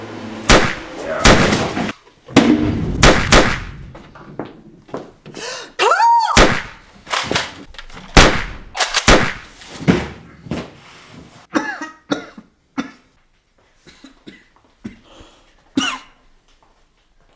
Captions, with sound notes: [gunshot] [gunshot] [gunshots] Carl! [gunshot] [shotgun fires] [gunshot]